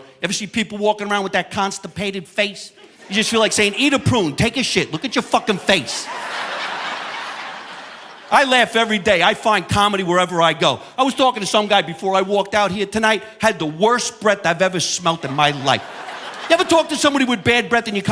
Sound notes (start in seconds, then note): 6.4 audience laughing